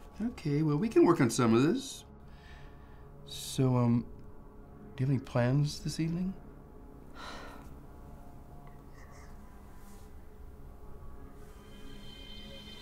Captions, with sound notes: Okay, well, we can work on some of this. So um...do you have any plans this evening? (sighs)